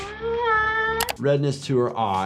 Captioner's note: moans